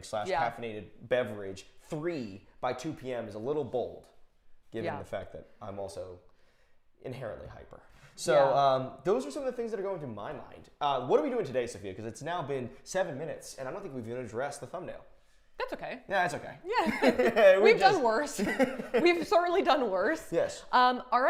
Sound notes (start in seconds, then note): 18.3 Safiya and Tyler laughing quickly